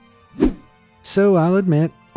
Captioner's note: image whooshing